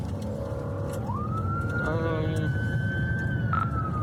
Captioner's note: siren wailing